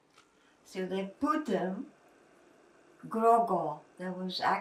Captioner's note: non-english